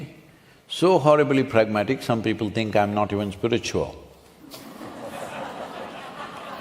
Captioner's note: laughter